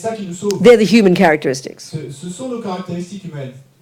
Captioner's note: speaking in French